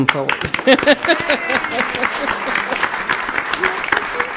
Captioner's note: applauding